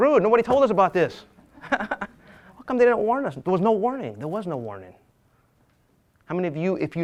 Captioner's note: laughs